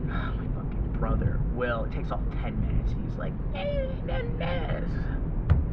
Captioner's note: mock whines